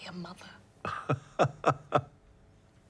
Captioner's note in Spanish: Oscar se ríe